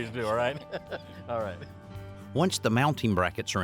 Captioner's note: chuckles